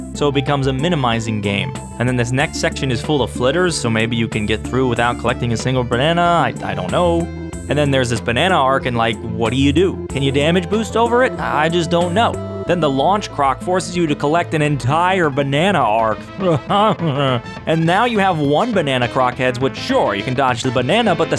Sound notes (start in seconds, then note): 16.4 audible pain